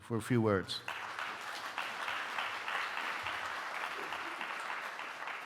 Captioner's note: audience applauding